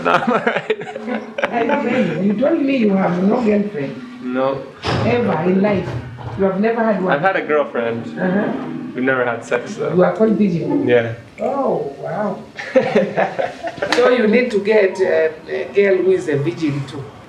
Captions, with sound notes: but I'm all right. No. I've had a girlfriend. - Uh huh. - We never had sex, though. Yeah. (laughing)